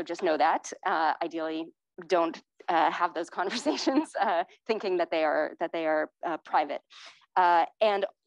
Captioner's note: laughter